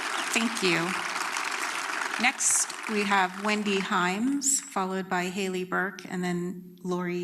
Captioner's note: applause